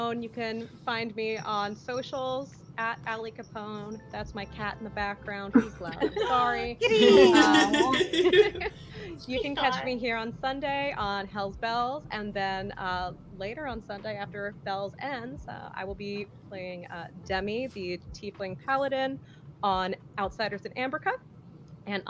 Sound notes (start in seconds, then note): 3.9 bells jingling; 6.8 overlapping laughter and chatter